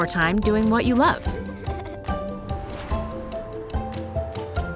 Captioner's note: child laughs